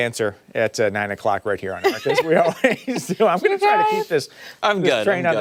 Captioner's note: laughter